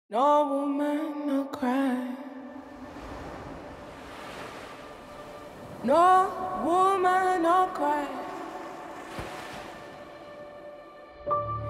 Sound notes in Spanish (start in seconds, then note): 1.4 mujer canta con emoción; 5.1 sonido de olas rompiendo